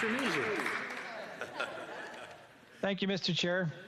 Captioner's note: speaking Italian